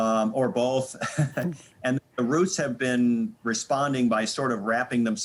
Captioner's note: laughing